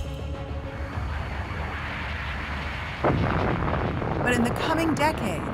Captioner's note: explosion echoes